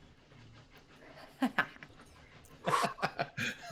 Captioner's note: laughs